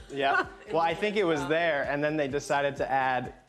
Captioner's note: laughs